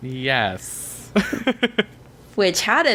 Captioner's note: laughs